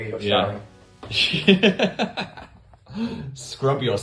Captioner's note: Phil laughing